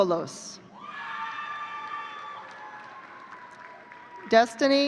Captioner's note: audience cheering